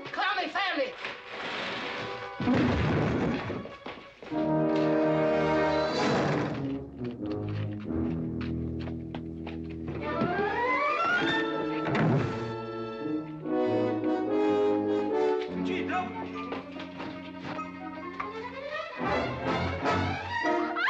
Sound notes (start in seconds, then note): 2.4 loud thump; 20.6 Katherine screaming